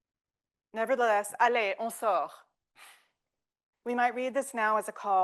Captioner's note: speaking French